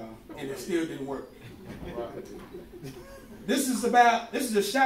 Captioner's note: laughing